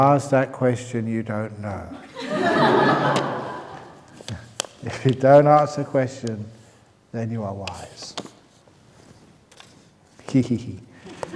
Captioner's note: laughter